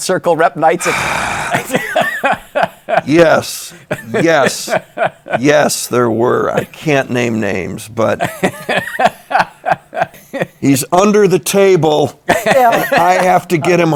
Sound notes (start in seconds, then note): 0.8 sighs; 8.2 laughs